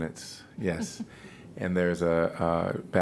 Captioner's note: laughter